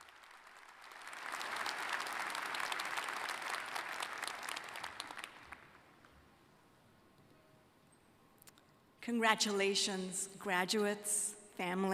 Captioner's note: applause